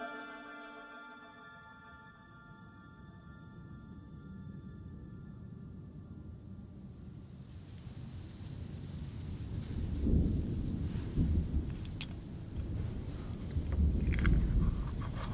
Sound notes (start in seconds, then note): 9.7 distant thunder